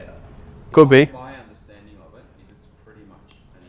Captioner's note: voiceover